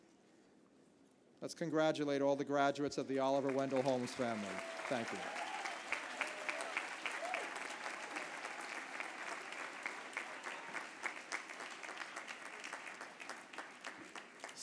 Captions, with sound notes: Let's congratulate all the graduates of the Oliver Wendell Holmes family. [APPLAUSE]